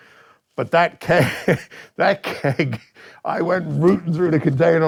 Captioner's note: laughs